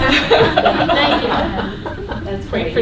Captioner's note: laughter